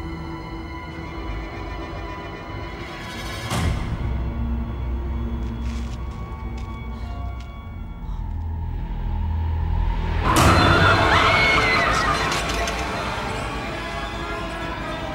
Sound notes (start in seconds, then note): 2.4 soft ominous music; 4.6 soft tense orchestral music; 10.4 Caroline screaming; 10.7 loud ominous music